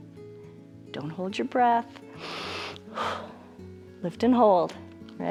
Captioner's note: inhales and exhales